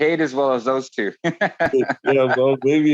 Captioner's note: laughing